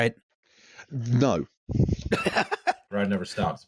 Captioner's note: laughter